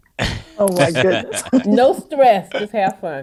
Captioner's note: laughter